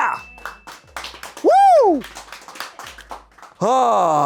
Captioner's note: bell dings; audience applauding